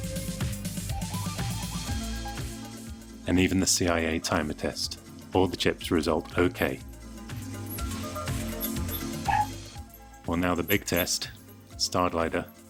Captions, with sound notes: And even the CIA timer test, all the chips result OK! (dogs barking) Well, now the big test.. StarGlider